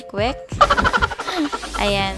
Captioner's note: laughing